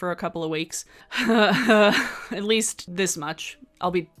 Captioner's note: laughs